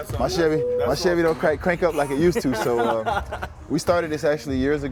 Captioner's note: laughs